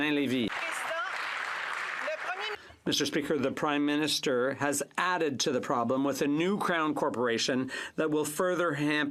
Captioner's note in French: applaudissements